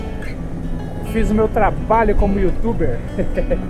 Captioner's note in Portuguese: risos